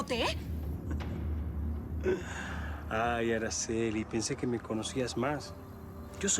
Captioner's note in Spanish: riendo